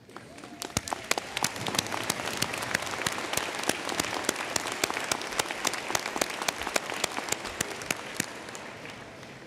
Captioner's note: applause